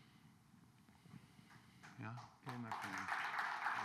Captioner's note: applause